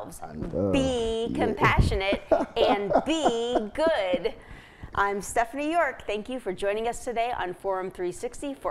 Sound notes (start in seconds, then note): 3.7 laughing